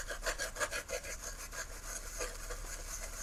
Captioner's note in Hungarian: lihegés